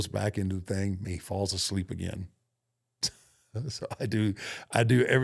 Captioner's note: laughs